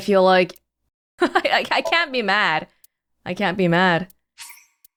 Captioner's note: chuckles